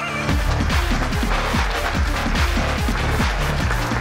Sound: applauding

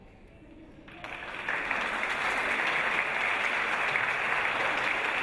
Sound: audience applause

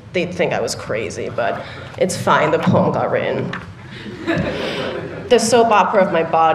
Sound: laughter

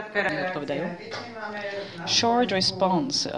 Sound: non-english

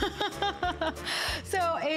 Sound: laughter

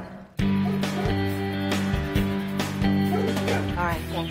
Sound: upbeat music; dog barks

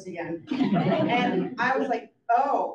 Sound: audience laughs

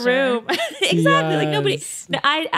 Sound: laughs

